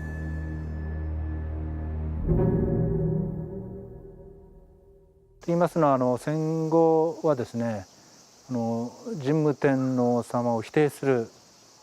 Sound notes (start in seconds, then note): 0.0 soft ominous music; 5.7 speaking in Japanese